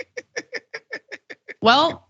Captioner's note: laugh